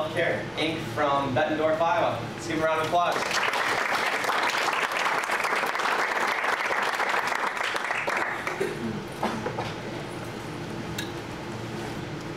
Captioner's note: clapping